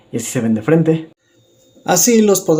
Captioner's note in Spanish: Silencio